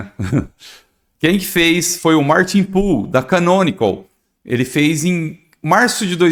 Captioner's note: clearing throat